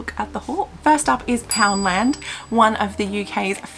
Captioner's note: bell sound ding!